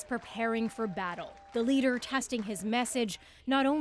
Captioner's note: applause